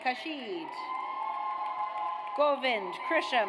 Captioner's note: audience cheers